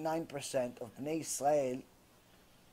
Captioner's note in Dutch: hebreeuw